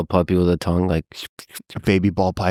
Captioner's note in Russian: Лекс чмокает языком